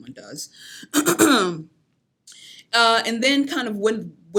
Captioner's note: clears throat